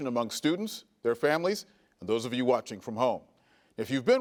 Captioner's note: none